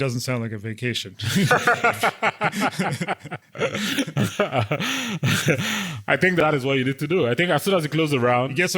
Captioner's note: laugh